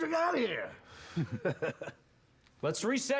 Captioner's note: laughs